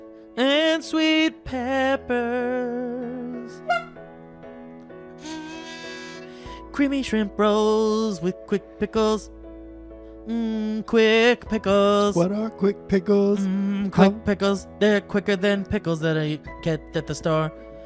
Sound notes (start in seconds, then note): 3.6 honk